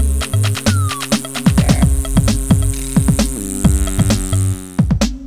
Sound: rotors spinning

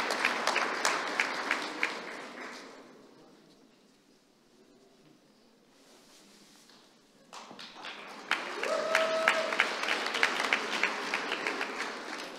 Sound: applause

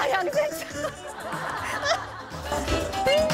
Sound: laughing

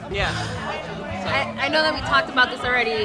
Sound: breathes heavily

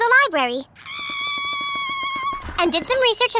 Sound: screaming

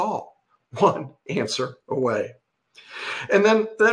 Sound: chuckles

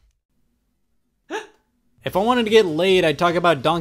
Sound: gasps

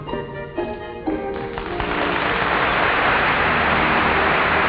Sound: audience applauding

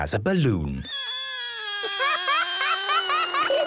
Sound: balloon air squealing

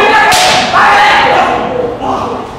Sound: slap

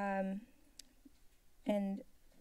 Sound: clicks tongue

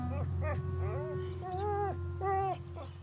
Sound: Rusty whimpering

